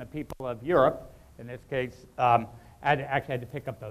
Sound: microphone cutting out

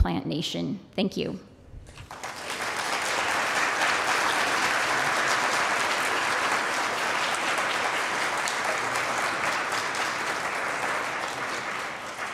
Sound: applause

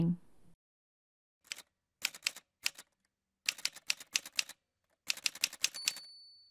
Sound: typewriter sounds

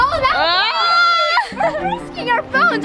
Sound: exclaims nervously

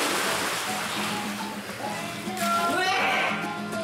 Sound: glug glug

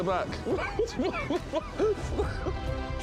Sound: laughing

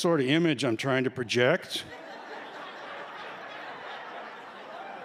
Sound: laughter

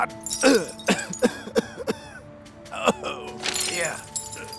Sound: coughing

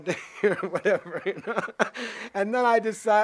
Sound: laughs

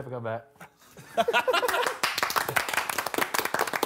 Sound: all clapping

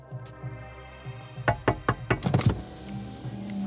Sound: tapping on glass

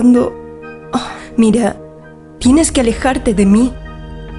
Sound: sighs

